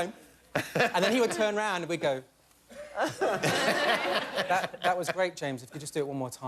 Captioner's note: laughter; laughter